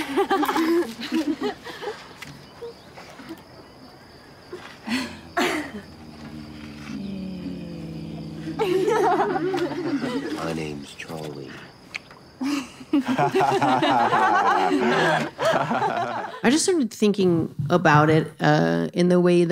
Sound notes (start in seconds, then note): 0.0 laughing; 4.8 hums; 11.8 kiss smack; 12.4 laughing